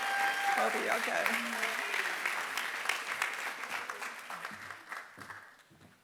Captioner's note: applause